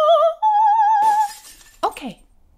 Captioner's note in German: Scheibe zerspringt